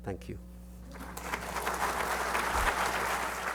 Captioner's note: audience applause